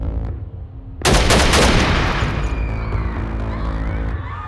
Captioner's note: gunshots